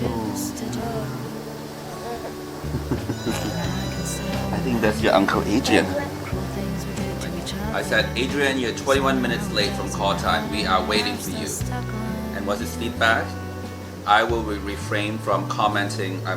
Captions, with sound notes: Awww. (laughing) (phone rings) I think that's your uncle Adrian. I said "Adrian, you're 21 minutes late from call time. We are waiting for you." And what's his feedback? "I will refrain from commenting.